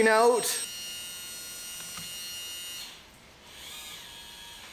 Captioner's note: engine whirring